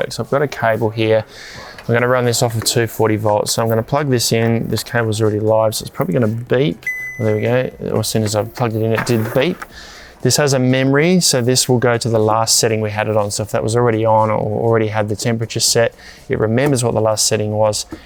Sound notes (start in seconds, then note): 6.8 fridge beeps